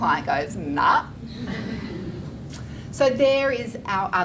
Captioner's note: audience Laughter